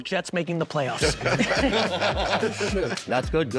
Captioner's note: laughing